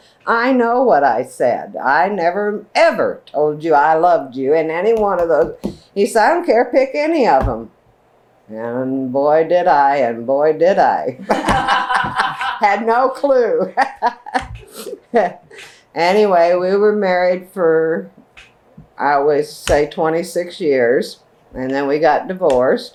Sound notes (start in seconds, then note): 11.2 laughter